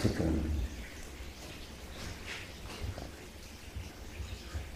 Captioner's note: water dripping